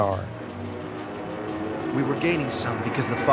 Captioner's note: jet engine roaring